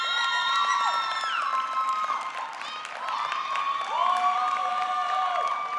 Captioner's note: audience cheering; audience clapping